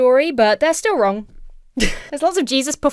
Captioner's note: Emma chuckles